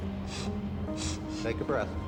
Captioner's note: sniffling